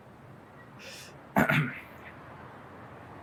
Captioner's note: clears throat